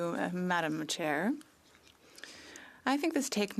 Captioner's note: speaking French